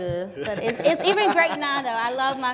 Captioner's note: laughing